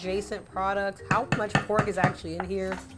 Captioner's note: spoon tapping